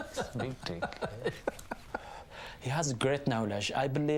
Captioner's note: laughing; laughing Continues; 笑声继续